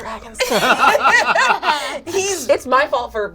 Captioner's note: all laugh